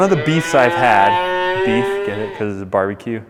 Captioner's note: cow moos